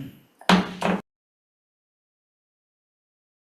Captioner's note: gavel bangs